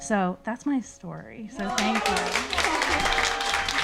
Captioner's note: audience cheering; audience clapping; laughing